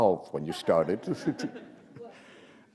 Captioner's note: laughter